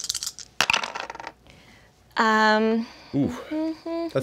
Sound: dice rattle

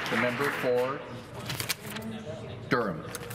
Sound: applause

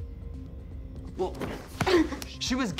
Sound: Cindy grunts

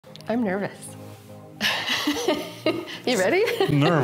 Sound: laughing

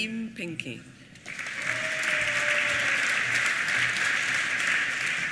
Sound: applause

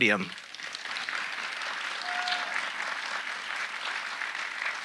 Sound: audience applauding

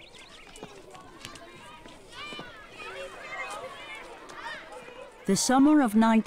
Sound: children laughing and chattering

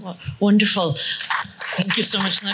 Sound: applause

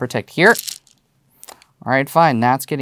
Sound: stones rattling

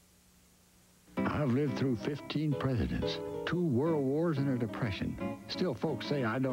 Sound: old man's voice

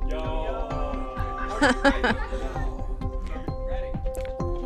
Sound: laughing

